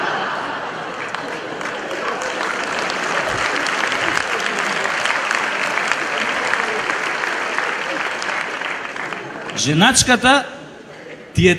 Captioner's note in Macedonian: аплауз